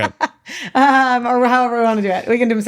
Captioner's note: laughs